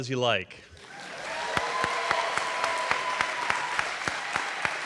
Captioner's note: audience applauding